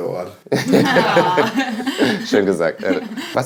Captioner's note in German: Gelächter